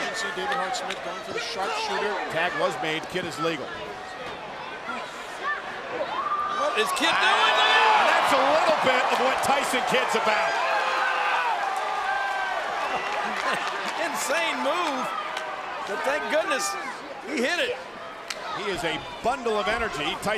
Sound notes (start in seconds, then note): 5.4 crowd screams; 10.5 crowd cheering